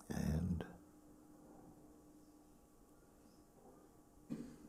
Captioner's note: silence